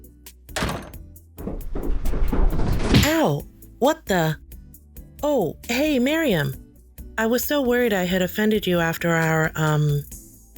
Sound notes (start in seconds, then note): 0.5 door slamming; 1.4 tumbling noises